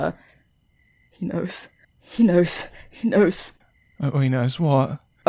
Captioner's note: panicking